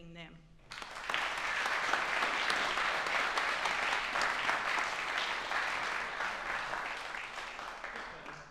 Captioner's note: applause